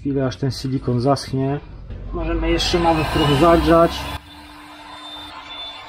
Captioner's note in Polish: Aplauz